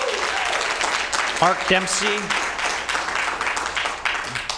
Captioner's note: applause